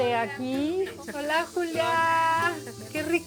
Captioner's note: speaking Spanish